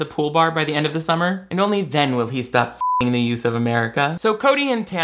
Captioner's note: beep